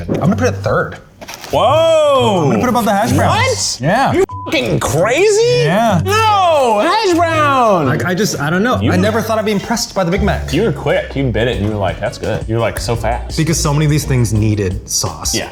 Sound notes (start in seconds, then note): 4.2 beep